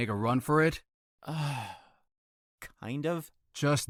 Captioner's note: sighs